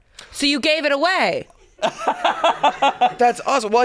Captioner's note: laughs